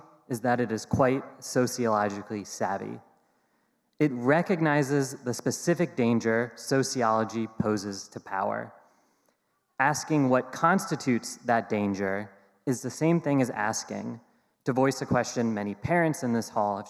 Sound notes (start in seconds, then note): none